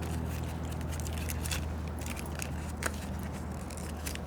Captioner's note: gum paper crinkling